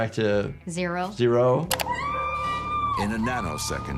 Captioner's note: Sandy screaming